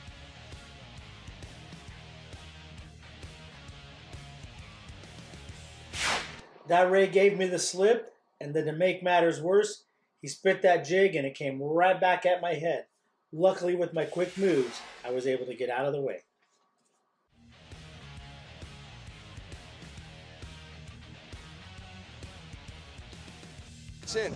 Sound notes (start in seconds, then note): 0.1 fast upbeat music; 5.6 fast whoosh effect; 17.4 fast upbeat music